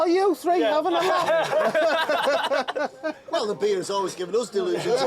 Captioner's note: laughter